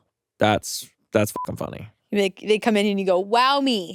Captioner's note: beeps